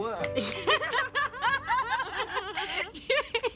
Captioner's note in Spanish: Risas